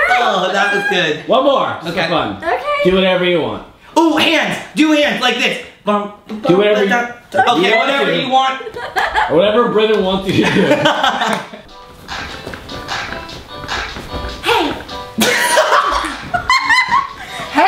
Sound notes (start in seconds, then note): 1.2 voiceover; 3.7 voiceover; 6.4 voiceover; 9.1 voiceover; 11.5 upbeat music; 15.2 laughter